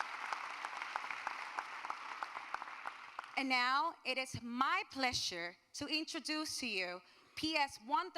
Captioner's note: applause